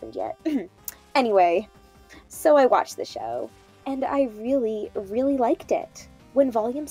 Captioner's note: cough